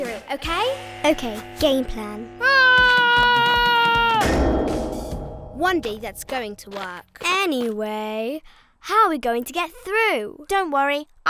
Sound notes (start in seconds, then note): 2.4 Esme screaming; 4.2 bang echoes